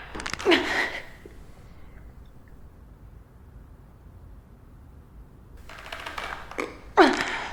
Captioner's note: Astrid grunts; neck cracks; leather crackles; Astrid grunts